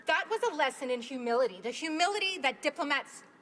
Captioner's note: speaking in spanish